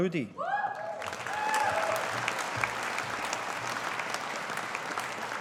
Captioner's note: audience applauding